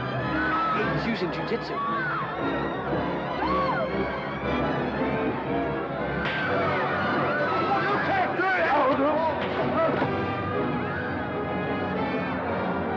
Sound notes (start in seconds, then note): 0.0 commotion & chaos; 0.0 suspenseful music; 1.8 commotion & chaos; 1.8 suspenseful music; 10.6 commotion & chaos; 10.6 suspenseful music